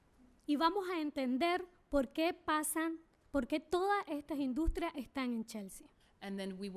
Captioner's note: speaking spanish